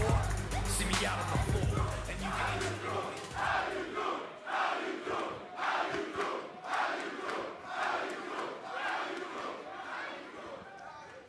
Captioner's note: fans chanting